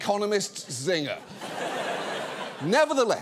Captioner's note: audience laughs